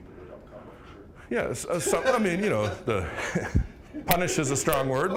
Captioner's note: scattered laughing